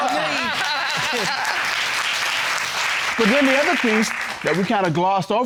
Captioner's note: audience laughing and clapping